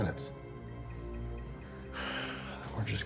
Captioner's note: sighs